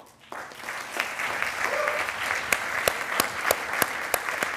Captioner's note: attendees applauding